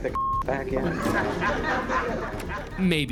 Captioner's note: laughter